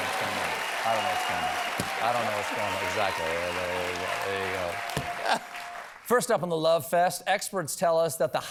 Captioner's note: cheers and applause